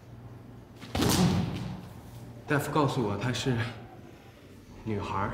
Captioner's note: speaking in Mandarin